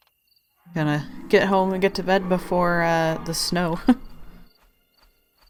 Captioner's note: laughs